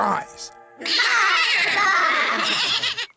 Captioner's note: baaing